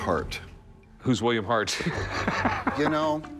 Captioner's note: laughs